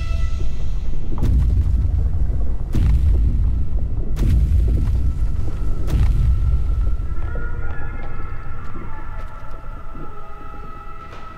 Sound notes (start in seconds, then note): 0.1 eerie music; 4.1 bombs blasting in distance; 8.8 eerie music